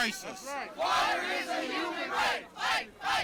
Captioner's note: chanting